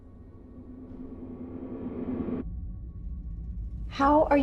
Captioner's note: dense swooshing